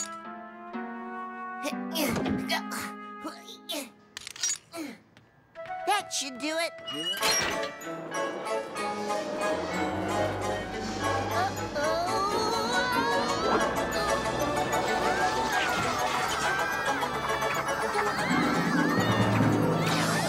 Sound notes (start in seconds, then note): 2.0 grunts; 8.3 music speeds up really quickly